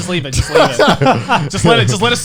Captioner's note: laughs